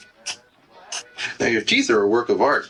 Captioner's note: background chatter